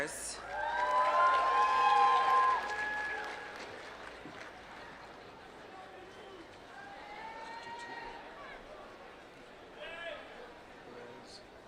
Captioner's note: applause